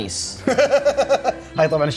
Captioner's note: laughs